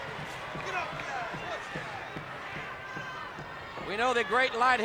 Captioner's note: crowd clamoring; footsteps plodding